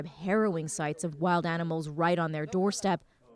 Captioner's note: speaking Foreign Language